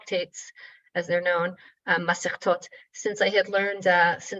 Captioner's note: speaking in foreign language